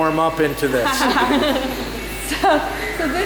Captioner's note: laughs